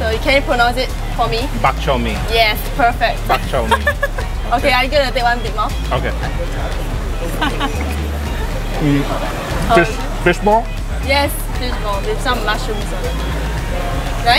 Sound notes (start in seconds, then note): 3.3 laughing; 7.3 laughing